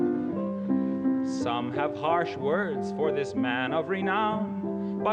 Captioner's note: in regular accent